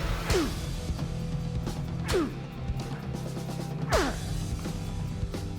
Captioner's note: grunting